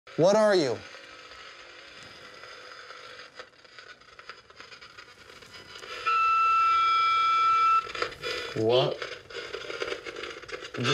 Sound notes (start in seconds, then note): 1.5 static crackling; 5.9 high-pitched tone